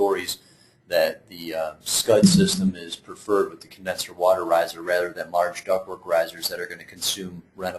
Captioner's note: riser